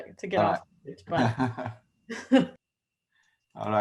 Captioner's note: laugh